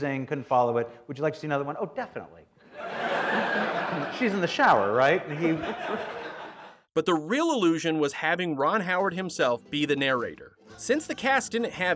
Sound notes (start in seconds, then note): 2.7 audience laughter